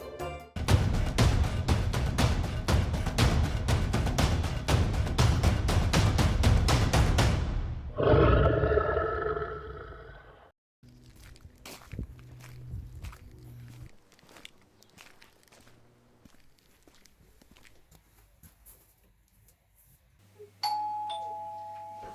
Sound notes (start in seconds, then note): 10.9 footsteps; 20.6 doorbell rings